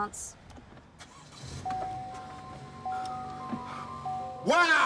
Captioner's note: engine revs